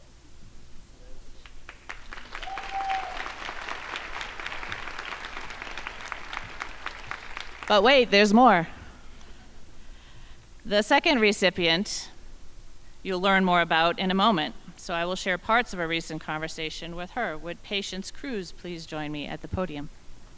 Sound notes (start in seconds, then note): 1.4 crowd applauding; 9.6 crowd giggling